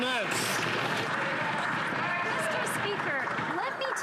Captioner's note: some Applause